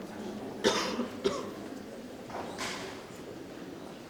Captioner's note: man coughs